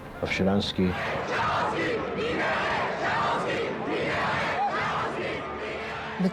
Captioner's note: chanting